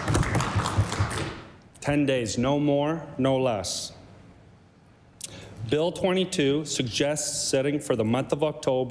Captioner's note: applause